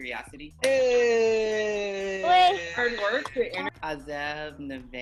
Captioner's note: participants cheering